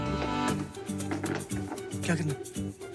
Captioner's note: Door closes